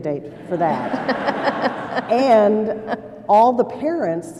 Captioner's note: laughter